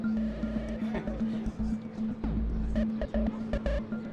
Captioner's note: patrons chatting